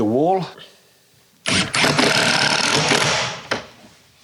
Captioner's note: electric drill sound